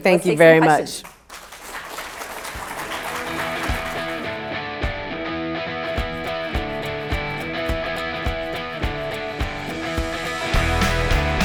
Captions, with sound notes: - Thank you very much. (people clapping) (upbeat music)